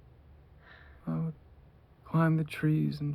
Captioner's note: soft sigh, from a separate voice